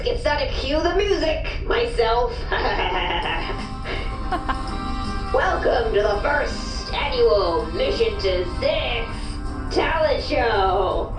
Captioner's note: laughs